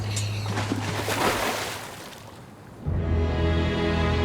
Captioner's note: splashing; serene instrumental music